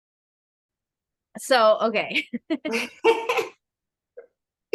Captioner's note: laughing